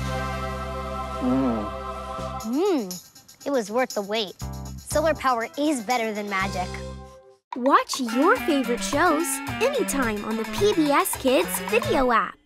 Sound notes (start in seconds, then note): 1.2 groaning in delight